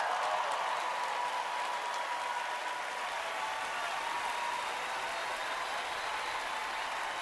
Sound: cheering, applause

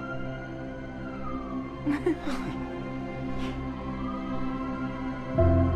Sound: laughter

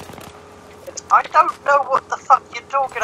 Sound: stammers

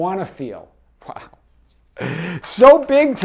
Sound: laughs

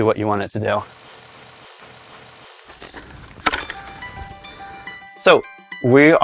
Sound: robot engine running

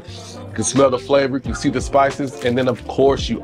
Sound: inhales

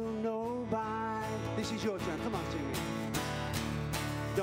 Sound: speaks

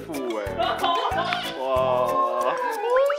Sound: chuckling

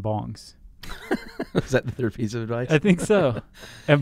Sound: laughing

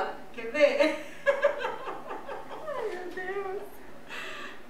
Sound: laughs

